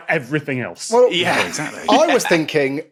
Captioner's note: laughs